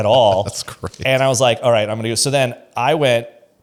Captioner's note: laughs